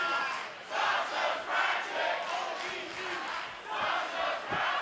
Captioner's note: fans chanting